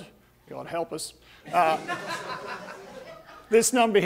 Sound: audience laughing

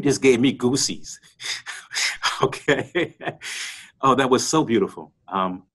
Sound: laughter

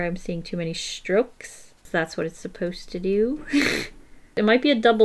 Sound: laughs

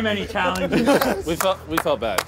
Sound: contestants laughing

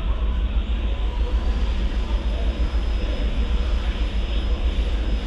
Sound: machine whirring

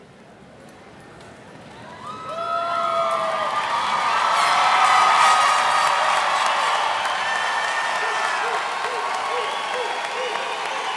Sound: cheers and applause

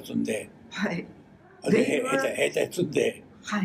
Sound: foreign language

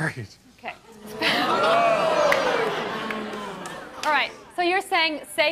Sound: audience jeers

